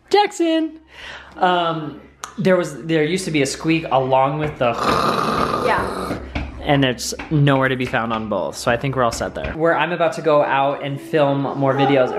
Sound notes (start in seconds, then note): 4.7 throat garbling